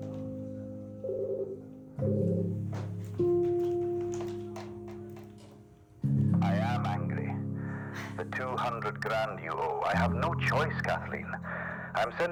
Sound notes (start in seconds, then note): 1.0 phone ringing